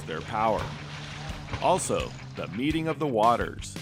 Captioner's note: fish splashing